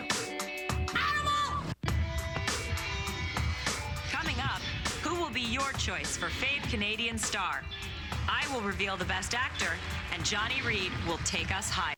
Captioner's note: applause